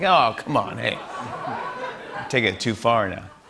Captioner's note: laughter